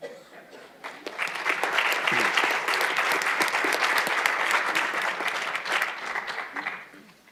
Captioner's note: applause